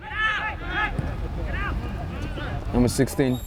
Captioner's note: players shouting